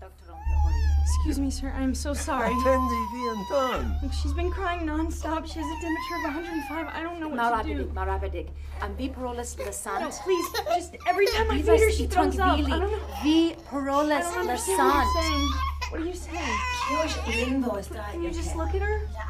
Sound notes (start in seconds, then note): 0.0 baby contines crying; 0.0 people speaking foreign language; 2.6 speaking foreign language; 7.9 speaking foreign language; 12.8 speaking foreign language; 16.2 baby contines crying; 16.8 speaking foreign language